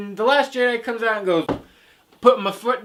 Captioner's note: stomp